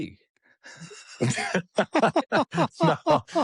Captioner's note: laughter